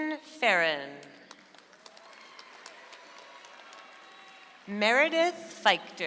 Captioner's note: audience applauds